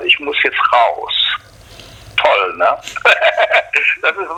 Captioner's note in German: lacht